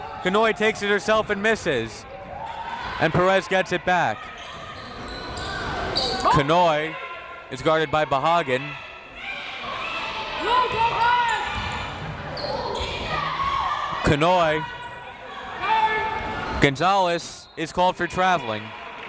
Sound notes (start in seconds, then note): 9.3 crowd members shouting